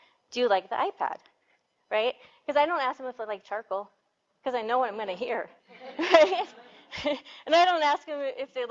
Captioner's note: laughter